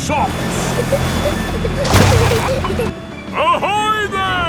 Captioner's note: peppa and george giggling